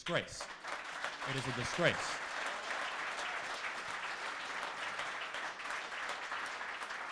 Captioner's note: crowd applauds